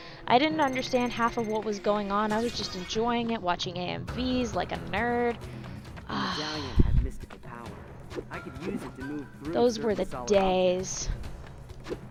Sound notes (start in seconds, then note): 6.1 sigh